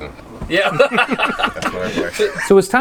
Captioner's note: laughing